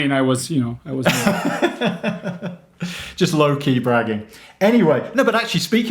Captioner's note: laughs